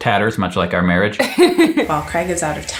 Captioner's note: laughs